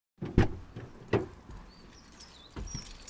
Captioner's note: car door opening; keys clinking